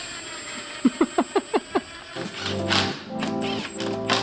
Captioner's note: laughing